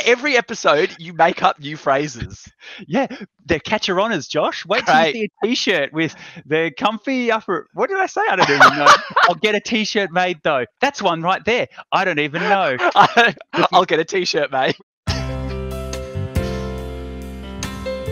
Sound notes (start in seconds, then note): 7.8 laughs